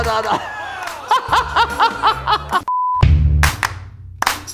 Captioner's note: laughing; upbeat music